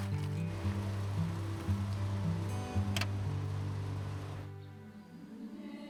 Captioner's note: engine humming